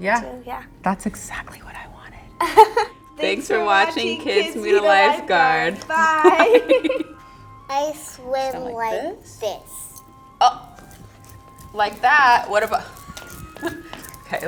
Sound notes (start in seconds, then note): 2.4 laughs; 6.0 both laugh; 13.1 laughs